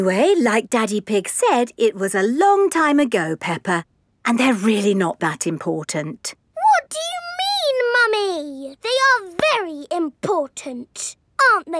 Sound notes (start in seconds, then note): none